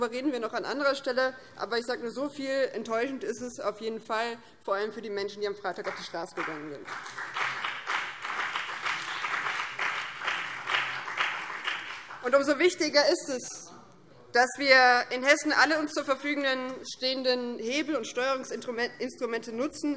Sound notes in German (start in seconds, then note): 7.3 Beifall BÜNDNIS 90/DIE GRÜNEN und vereinzelt DIE LINKE